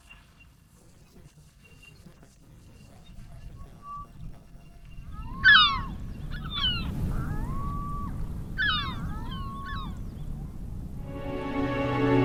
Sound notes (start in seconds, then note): 4.9 seagulls cry- soft wind